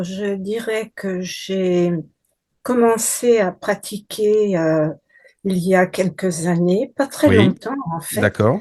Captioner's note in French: raclement de gorge